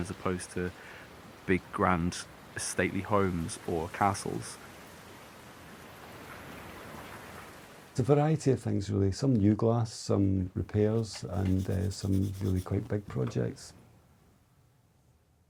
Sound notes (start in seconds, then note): 5.0 rain pattering